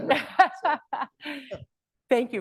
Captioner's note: laughs